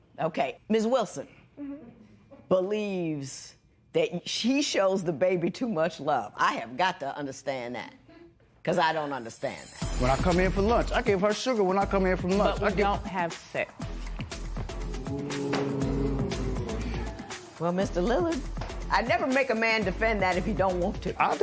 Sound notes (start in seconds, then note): 14.9 spectators "Ooh"